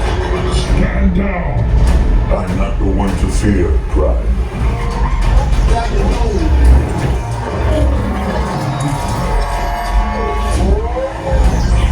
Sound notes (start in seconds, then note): 6.3 metal scraping